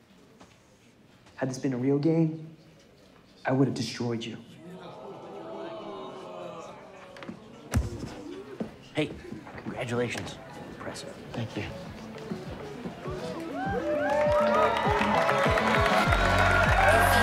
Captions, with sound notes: Had this been a real game, I would have destroyed you. (crowd oohing) (mic thudding) - Hey, congratulations. Impressive. - Thank you. (light electronic music) (crowd cheering and clapping)